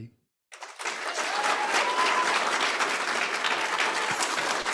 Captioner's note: audience applauding